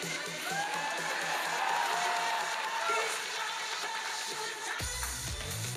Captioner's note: audience cheering; electronic dance music